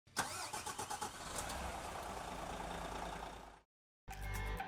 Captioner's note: car engine purring; upbeat music